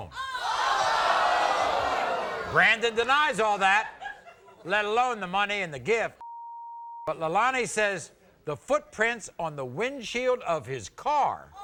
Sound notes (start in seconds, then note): 0.5 audience oohs; 6.2 beep